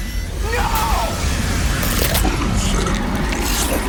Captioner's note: growling